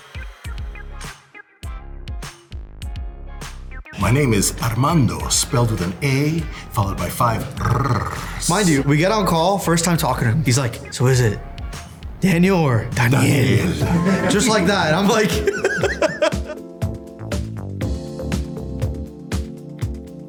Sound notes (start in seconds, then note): 7.4 rolls r's; 16.5 laughs